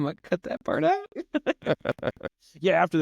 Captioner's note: both laugh